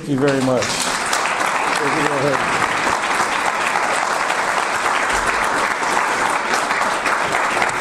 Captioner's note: audience applause